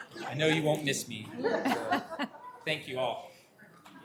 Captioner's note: laughter